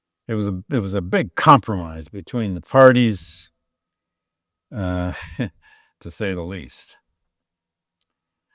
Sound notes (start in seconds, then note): 4.8 chuckles